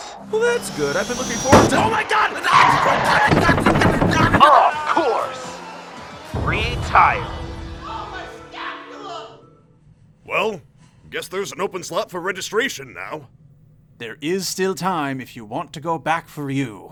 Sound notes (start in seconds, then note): 0.6 thud!; 6.3 boom